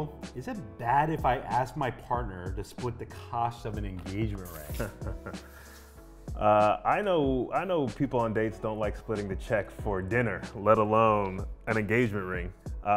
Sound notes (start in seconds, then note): 4.6 laughter